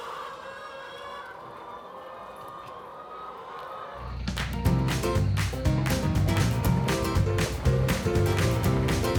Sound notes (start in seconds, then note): 0.0 chicken clucking; 4.4 upbeat music